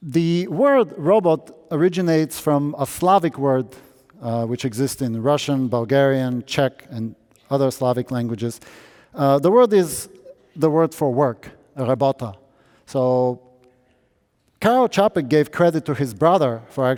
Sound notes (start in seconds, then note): none